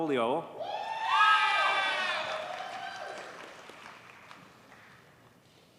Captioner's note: audience cheers and applauds